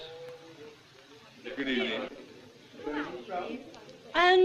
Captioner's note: general chatter